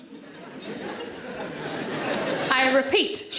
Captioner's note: audience laughing